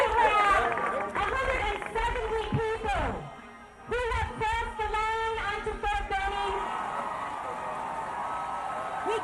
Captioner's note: applause